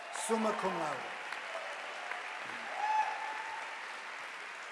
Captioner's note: audience applauding